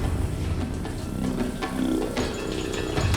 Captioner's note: water running